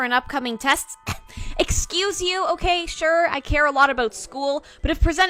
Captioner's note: scoffs